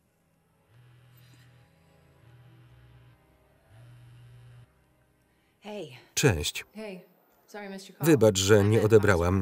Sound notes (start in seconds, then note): 0.2 ominous music; 3.5 cell phone buzzing